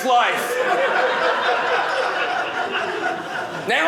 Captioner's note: audience laughing